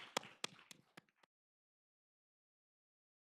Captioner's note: applause